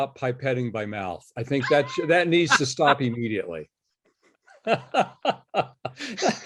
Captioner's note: laughs